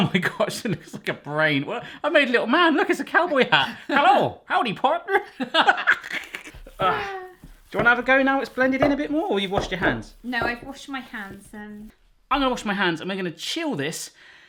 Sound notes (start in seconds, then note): 5.2 laughing